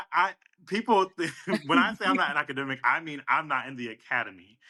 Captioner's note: laughs